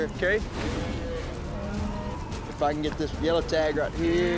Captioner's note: cattle mooing